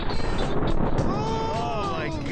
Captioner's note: artillery fire